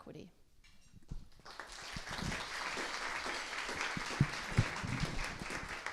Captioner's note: applause